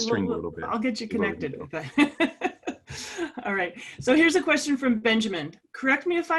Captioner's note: laugh